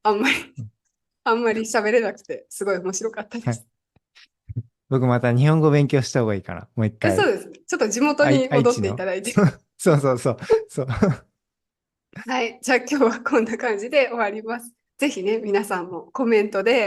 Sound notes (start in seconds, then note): 8.3 laughs